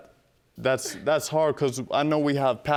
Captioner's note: scoffs